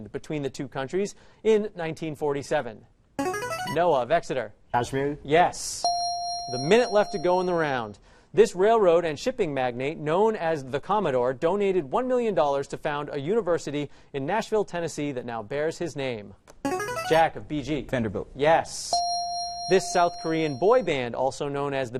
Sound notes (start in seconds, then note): 3.2 answer bell; 5.8 correct answer chime; 16.7 answer bell; 18.9 correct answer chime